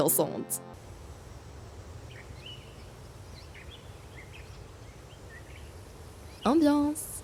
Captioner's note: nature noises